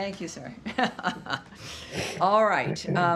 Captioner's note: laughter